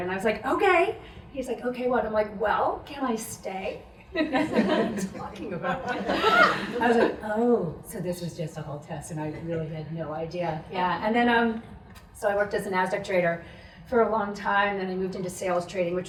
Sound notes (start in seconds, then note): 5.6 audience laughs